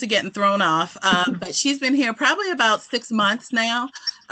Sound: laughter

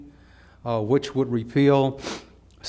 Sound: sniffing

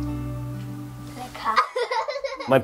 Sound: laughter

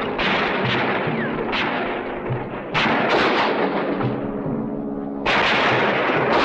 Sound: dramatic instrumental music; guns firing

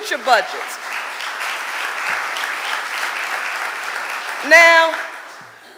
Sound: audience applauding

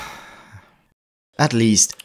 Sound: sigh

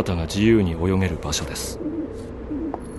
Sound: dove coos

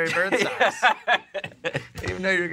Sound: laughs

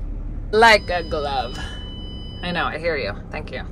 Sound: car beeping

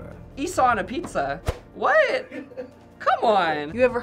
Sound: FBE laughing

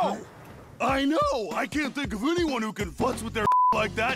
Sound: beep

